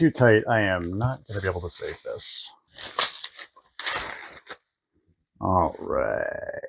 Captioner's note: bubblewrap